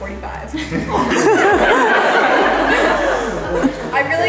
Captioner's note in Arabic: الضيوف يضحكون